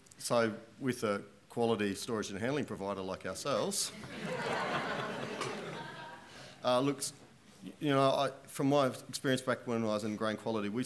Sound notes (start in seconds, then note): 4.0 chuckling